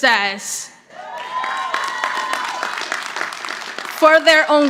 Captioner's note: audience applauding